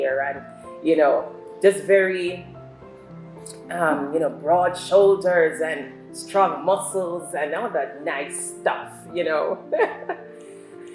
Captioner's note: laughs